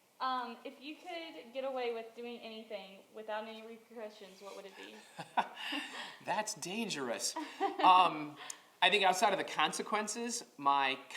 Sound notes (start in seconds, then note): 7.3 laughs